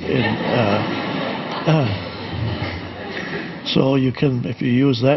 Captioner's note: audience laughing